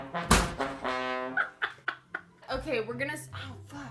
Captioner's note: trumpets; laughs